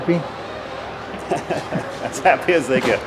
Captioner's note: laughter